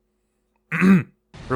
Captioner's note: ahem